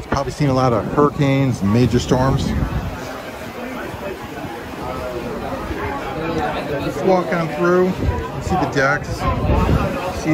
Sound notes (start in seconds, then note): 3.7 people chattering